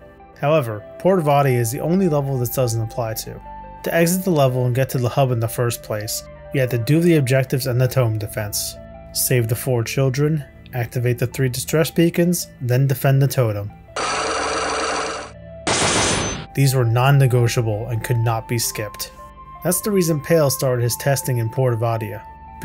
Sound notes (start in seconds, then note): 13.9 chains rattling; 15.7 locks slamming